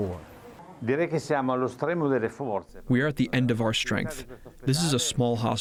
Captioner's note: through translator